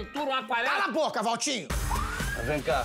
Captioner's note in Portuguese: sirene tocando